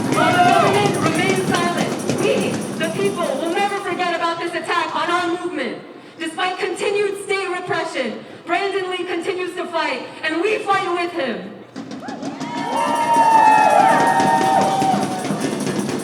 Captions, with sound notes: While the government remains silent, we, the people, will never forget about this attack on our movement. Despite continued state repression, Brandon Lee continues to fight, and we fight with him. (CROWD CHEERING)